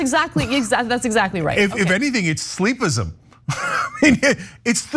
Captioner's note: laugh